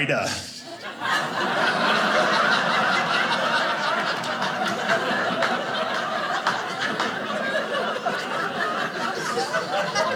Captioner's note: audience laughing